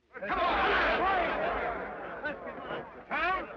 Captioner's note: men shout